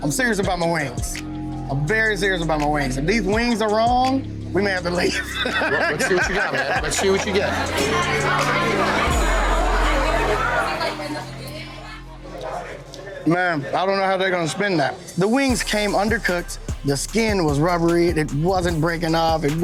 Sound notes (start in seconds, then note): 5.5 laughs; 8.0 customers chattering